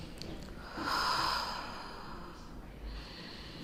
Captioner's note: sighs